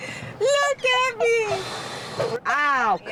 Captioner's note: giggles; sighs